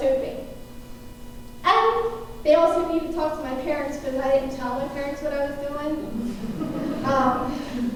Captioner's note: laughter